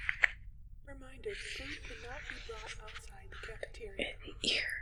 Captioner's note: voice over intercom